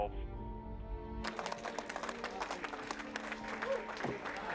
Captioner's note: men clapping